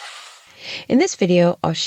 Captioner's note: sound effect